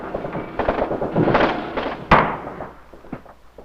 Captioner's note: guns firing